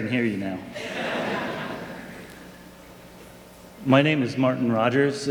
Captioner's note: audience laughing